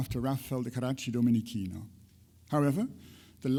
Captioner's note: speaks in foreign language